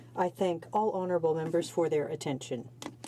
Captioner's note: speaking French